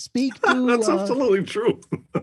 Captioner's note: laugh